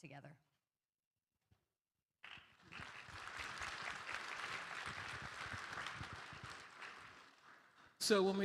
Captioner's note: applause